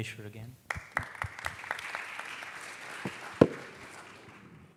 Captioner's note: applause